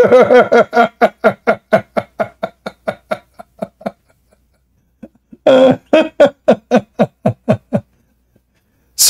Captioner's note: Ketawa